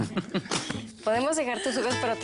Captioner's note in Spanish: Risas